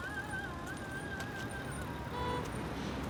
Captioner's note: car honking